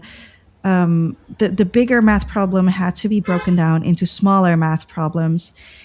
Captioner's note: breath